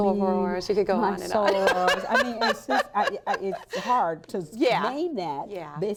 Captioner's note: laughter